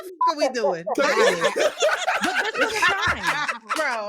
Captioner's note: laughing